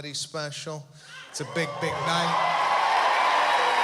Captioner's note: cheering